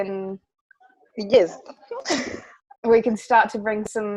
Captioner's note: laughs